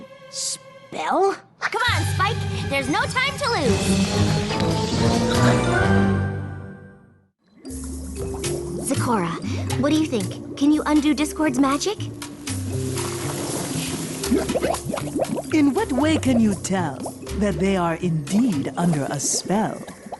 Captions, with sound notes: Spell? Come on, Spike! There's no time to lose! Zecora, what do you think? Can you undo Discord's magic? [bubbling] In what way can you tell that they are indeed under a spell?